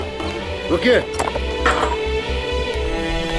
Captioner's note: Door opening